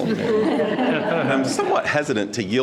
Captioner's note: all laughing